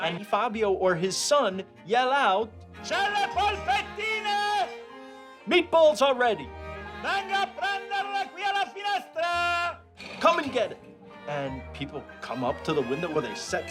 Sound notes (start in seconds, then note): 2.7 shouting in Italian; 6.7 more shouting in Italian